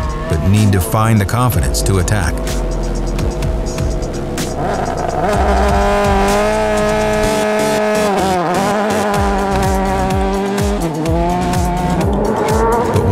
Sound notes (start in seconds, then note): 4.8 engines revving; 9.9 upbeat music